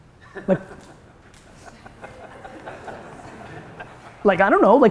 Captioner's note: audience laughter